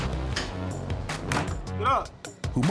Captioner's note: bang